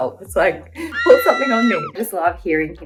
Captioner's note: people screaming effect